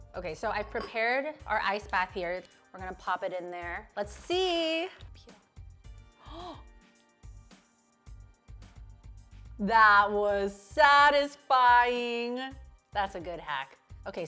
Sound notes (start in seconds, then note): 6.2 gasps